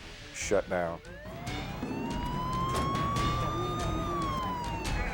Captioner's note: sirens blaring